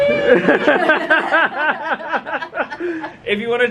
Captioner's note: both laughing